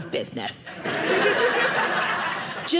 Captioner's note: audience laughing